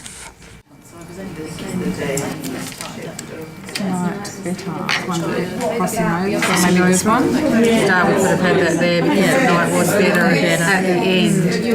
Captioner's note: participant chatter